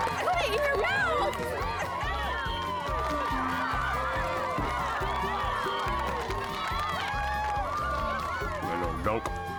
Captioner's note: cheering